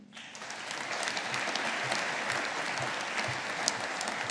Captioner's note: audience applauding